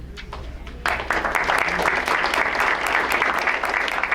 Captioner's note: crowd applauds